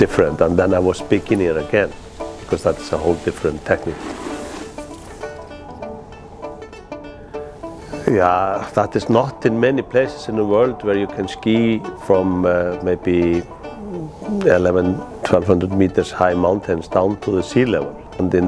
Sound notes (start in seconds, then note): 4.9 skis scraping; 6.1 happy music